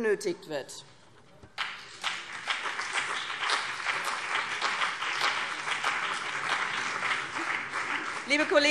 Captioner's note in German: Beifall BÜNDNIS 90/DIE GRÜNEN und CDU